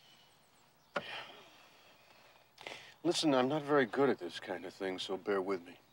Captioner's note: sighs